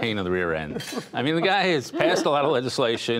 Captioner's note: laughter